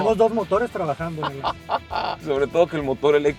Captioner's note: laughter